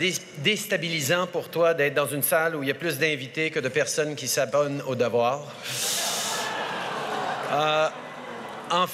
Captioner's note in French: Rires